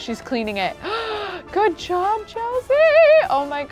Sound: gasps

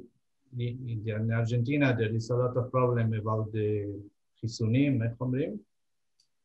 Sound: speaking Hebrew asks for translation

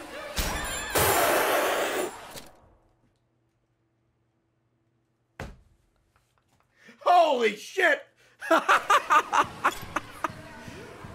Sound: laughs

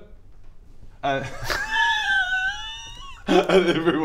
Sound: mischievous laughter

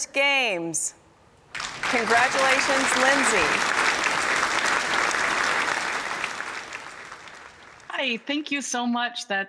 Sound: applause

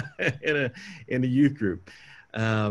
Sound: laughing

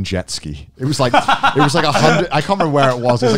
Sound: laughing

